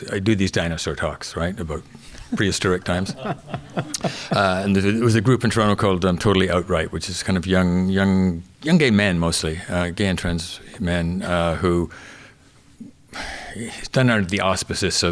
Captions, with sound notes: I do these dinosaur talks about prehistoric times (audience chuckling) and there was a group in Toronto called Totally Outright, which is kind of young gay men, mostly, gay and trans men who done under the auspices of,